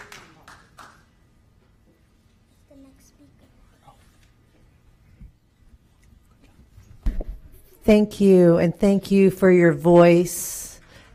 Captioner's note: applause